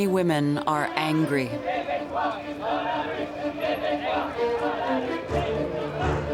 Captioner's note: crowd chanting